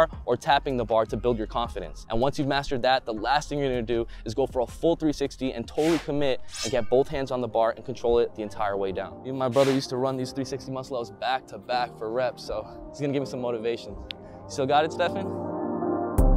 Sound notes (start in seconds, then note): 5.7 whoosh; 9.5 whoosh